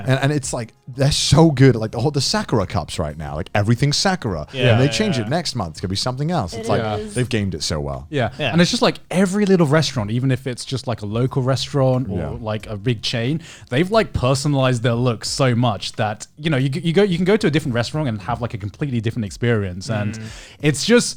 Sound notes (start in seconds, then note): 4.5 group agreeing